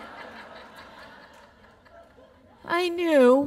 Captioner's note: laughter